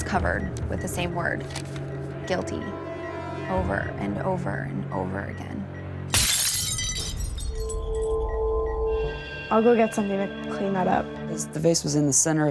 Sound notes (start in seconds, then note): 6.9 ominous music; 8.0 beeping